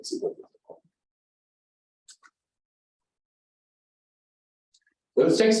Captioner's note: silence